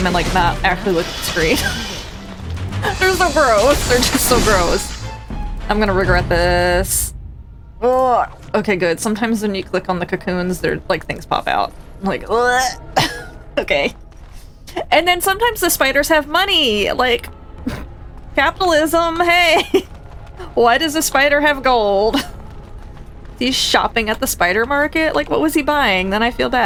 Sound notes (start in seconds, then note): 12.5 gag